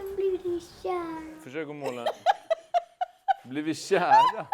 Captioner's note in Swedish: skrattar